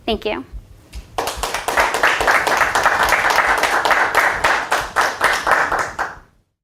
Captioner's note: applause